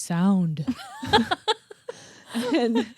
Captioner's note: both laughing